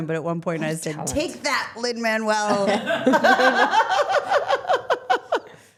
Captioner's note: laughing